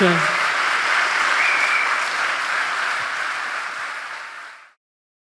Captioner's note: audience cheering and applauding